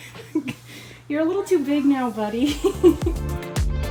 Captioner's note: laughing